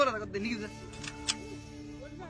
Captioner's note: gun cocks